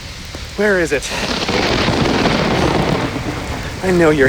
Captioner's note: loud thunder crashes over rain sounds